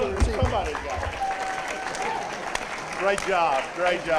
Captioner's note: applause